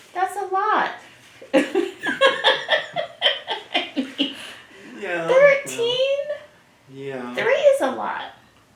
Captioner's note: laughs